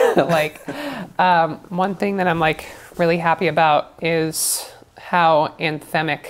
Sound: laughs

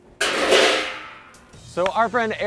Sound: lid clanking

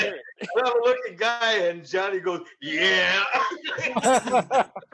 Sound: laughter

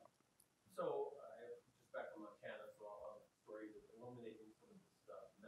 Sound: man speaks softly

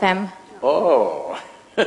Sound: laughs

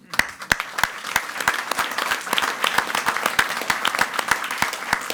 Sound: audience applauding

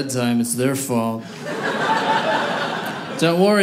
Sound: audience laughing

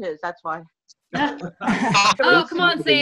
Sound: laughter

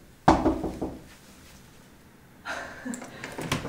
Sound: knocking

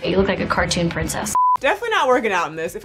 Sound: screen beeping

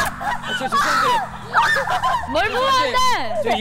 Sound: she makes a high-pitched sound

